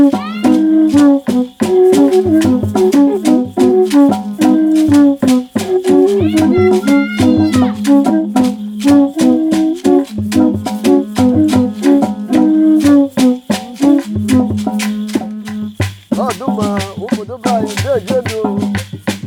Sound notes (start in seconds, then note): 5.2 soft steps